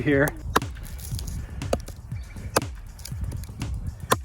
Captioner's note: ax chopping